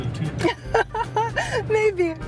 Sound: laughs

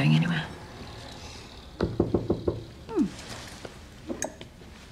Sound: knock on door

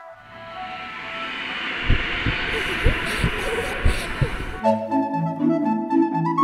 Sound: wailing ghosts, beating hearts, creepy children laughing

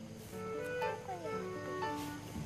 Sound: whispers

